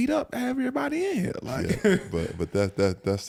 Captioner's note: laughs